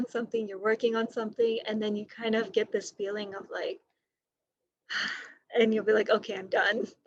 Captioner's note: breaths out